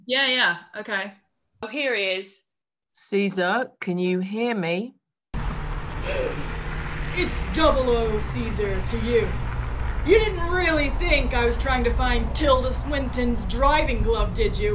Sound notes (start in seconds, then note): 5.8 sounds of traffic passing